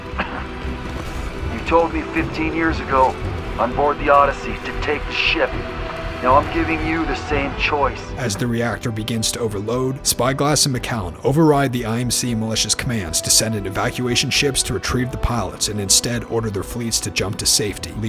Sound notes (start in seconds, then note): 8.3 voiceover